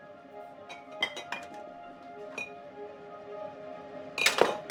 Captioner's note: bottles clinking